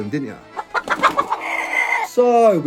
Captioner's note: chickens clucking; chicken flapping wings